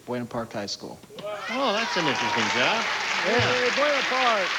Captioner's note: cheering